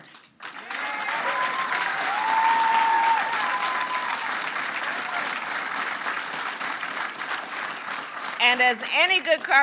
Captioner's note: applause